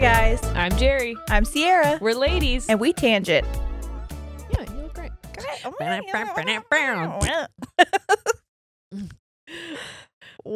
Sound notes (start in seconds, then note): 0.0 upbeat music; 7.3 laughing; 7.5 blowing raspberry